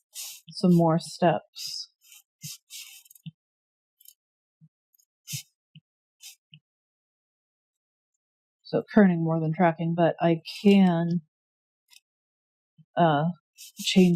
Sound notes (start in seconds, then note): 0.0 drawing noises; 0.0 scratch, tap; 2.4 tapping, drawing